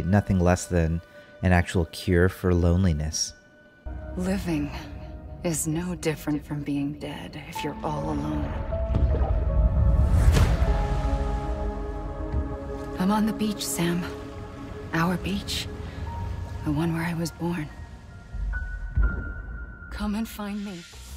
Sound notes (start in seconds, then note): 8.5 suspenseful music; 10.2 water splashes